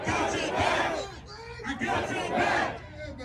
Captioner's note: crowd